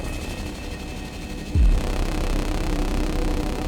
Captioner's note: electronic sounds from spaceship; laser whirring